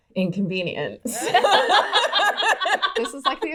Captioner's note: laughing